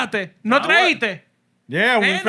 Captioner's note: speaking Spanish